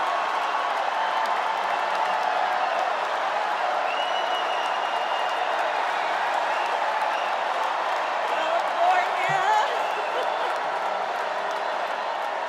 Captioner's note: cheers and applause